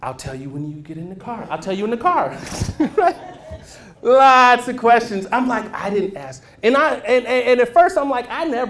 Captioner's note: laughter